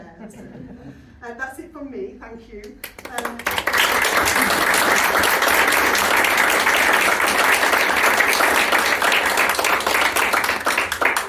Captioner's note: round of applause